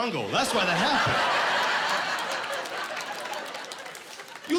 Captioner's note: laughing